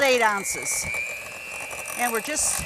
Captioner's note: blender machine roaring